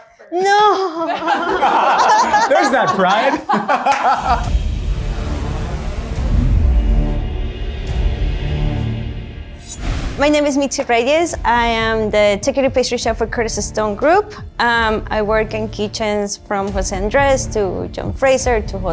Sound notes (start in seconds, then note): 0.5 all laughing; 3.8 laughs; 4.2 tense music